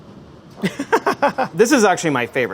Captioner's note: laughing